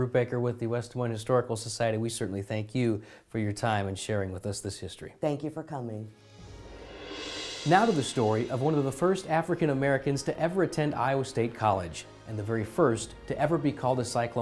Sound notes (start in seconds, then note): 8.0 swoosh